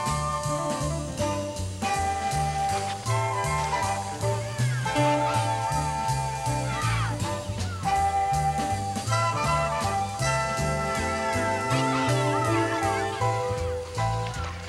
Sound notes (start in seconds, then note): 1.8 splashing; 4.1 children shouting; 13.7 splashing